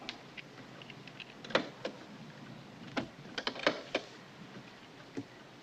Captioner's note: latches click